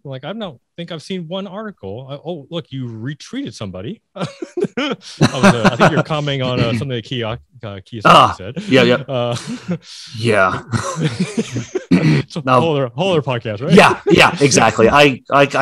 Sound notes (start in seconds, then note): 10.6 both laughing